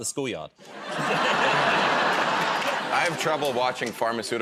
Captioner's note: laughter